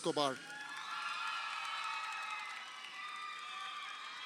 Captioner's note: crowd cheering